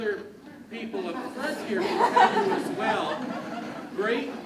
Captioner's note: crowd laughs and clouds speech